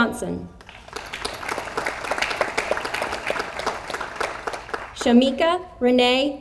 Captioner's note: audience applauds